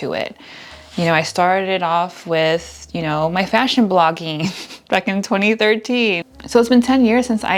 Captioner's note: haha